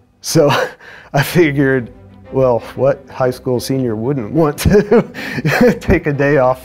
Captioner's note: laughter